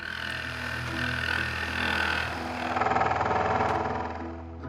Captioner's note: drill whirring